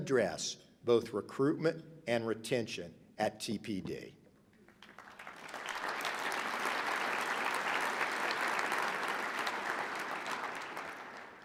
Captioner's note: applause